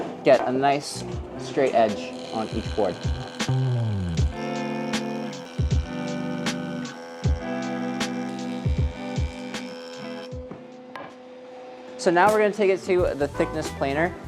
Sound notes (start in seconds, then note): 3.8 jointer buzzing; 3.8 mellow music